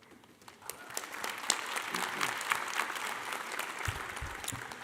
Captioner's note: audience applauding